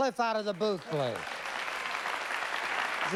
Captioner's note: applause